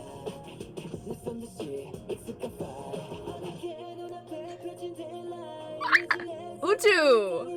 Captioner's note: gasp Shriek